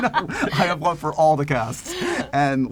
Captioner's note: laughter; laughs